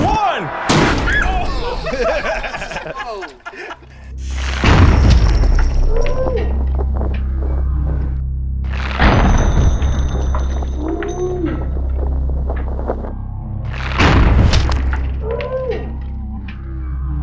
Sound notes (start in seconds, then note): 0.2 airbag exploding; 0.5 crowd laughing; 4.1 slow motion exploding; 4.7 jewels tinkling